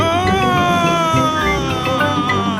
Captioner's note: screaming